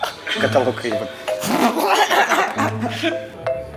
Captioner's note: laughs